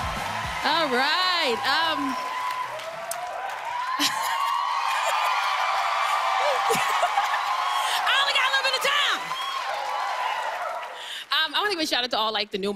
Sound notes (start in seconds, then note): 3.2 cheers and applause; 6.5 laughing